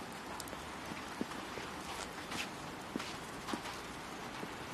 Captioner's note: takes footsteps